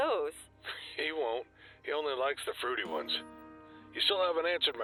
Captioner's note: laughs